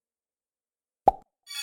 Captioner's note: pop